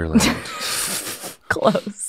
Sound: laughs

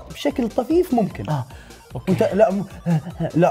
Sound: exhales

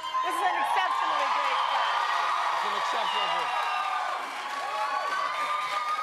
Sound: cheers and applause

